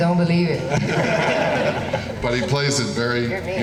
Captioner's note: laughing